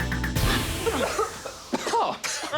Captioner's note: gas hisses; all cough; voice laughs